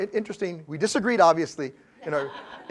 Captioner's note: laugh